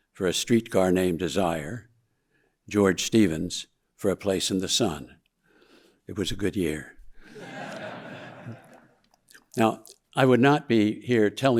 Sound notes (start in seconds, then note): 7.2 audience laughing